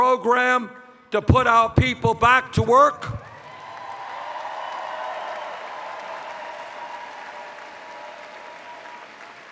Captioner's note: cheers